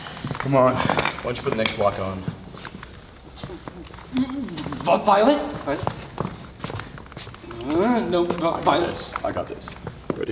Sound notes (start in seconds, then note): none